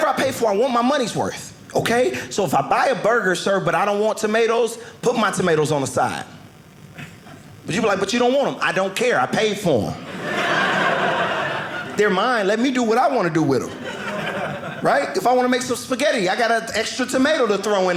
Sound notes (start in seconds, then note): 10.0 audience laughing